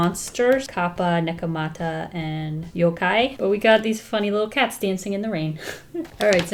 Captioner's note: laughs